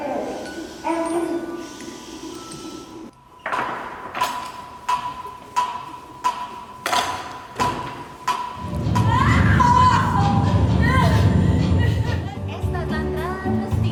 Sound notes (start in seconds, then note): 4.8 metronome sound; 8.9 woman screams